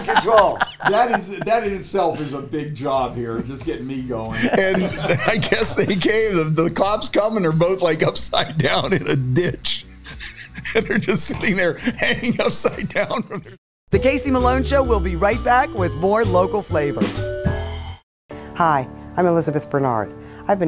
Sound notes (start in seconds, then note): 8.0 laughing